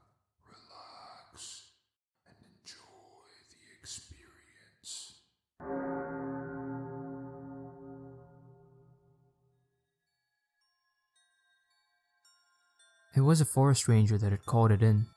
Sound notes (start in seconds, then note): 7.6 ding